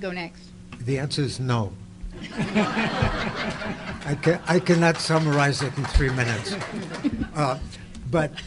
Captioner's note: audience laughter